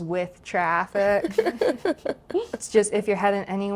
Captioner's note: group laughing